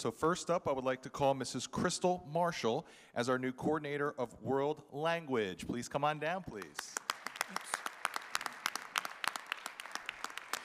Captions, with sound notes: So first up, I would like to call Mrs. Crystal Marshal. as our new coordinator of world language. Please come on down, please. (audience applauding)